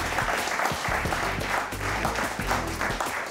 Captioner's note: audience applaud